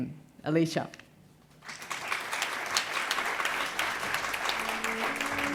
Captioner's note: applause